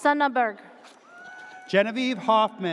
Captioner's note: audience cheers